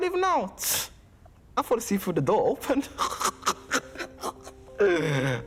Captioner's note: laughing